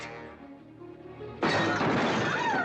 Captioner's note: tense music; table crashing over; Katherine screaming